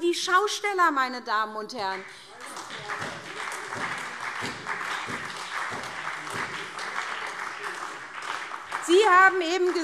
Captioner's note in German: Beifall SPD